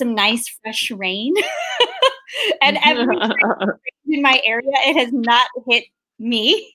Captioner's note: laughs